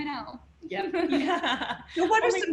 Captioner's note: laughter